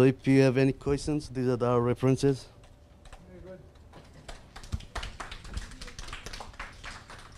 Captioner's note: audience applause